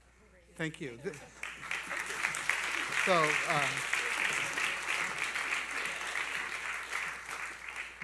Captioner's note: applause